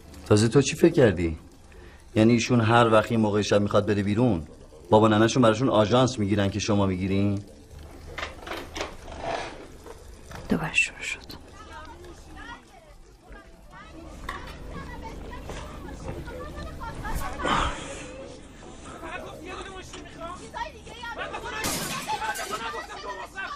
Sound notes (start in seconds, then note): 11.4 neighbors arguing; 21.6 glass breaking from neighbors house; 23.3 neighbors arguing